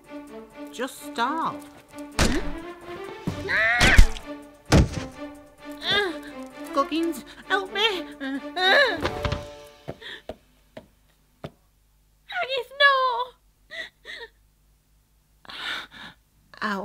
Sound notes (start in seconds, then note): 3.4 Mrs Goggins screams